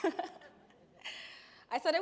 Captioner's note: chuckles